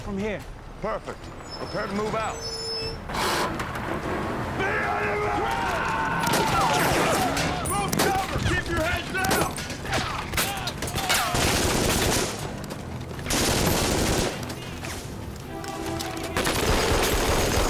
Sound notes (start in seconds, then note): 9.9 shouting in German